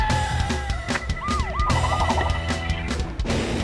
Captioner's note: siren wails